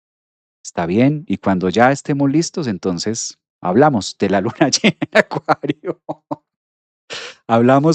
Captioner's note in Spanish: risas